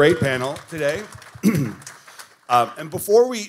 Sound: audience applauding

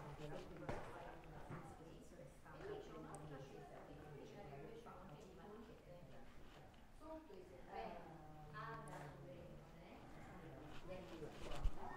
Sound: background chatter

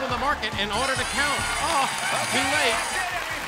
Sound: alarm blares

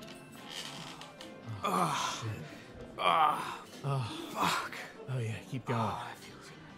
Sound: loud grunting noises

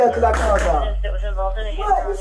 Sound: radio chatter

